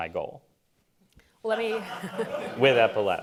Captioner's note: laughter